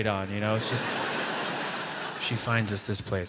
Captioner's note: audience laughs